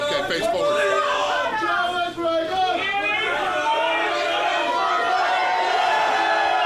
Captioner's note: crowd yelling